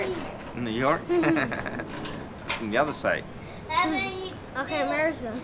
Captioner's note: chuckling